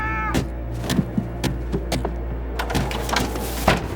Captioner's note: pounding